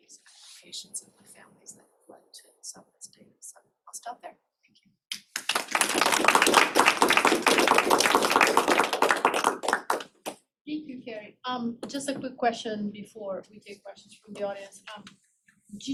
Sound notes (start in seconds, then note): 5.1 applause